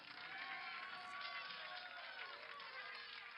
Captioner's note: applause